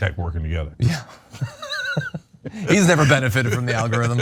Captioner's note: laugh